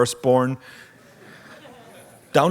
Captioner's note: audience laughs